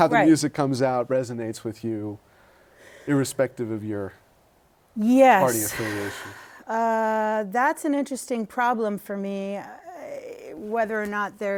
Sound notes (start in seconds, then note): 5.4 sighs